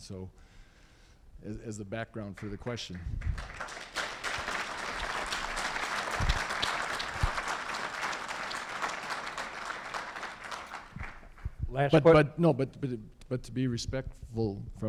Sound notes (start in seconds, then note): 8.8 applause